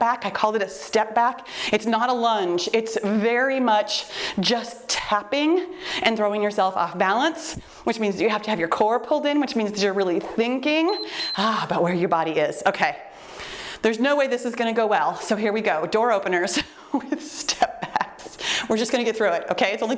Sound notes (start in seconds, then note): 10.8 timer beeps